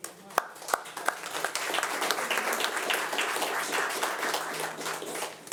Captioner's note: audience applauding